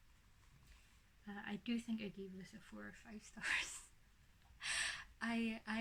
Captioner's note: laughs